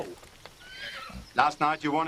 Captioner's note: horse whinnies